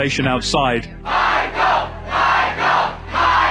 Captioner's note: crowd